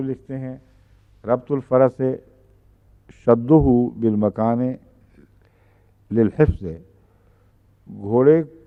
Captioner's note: Arabic